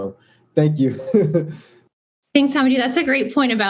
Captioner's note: laugh